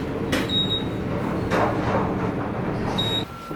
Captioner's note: beeping